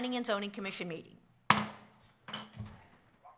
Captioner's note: gavel